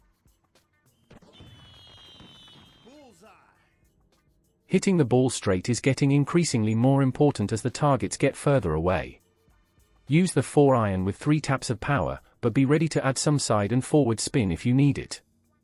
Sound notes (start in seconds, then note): 1.2 fireworks popping